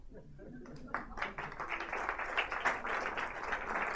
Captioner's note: audience applauds